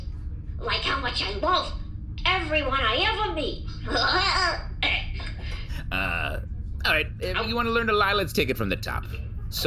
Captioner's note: laughs endearingly